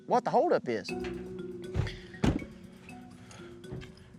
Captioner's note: truck door closes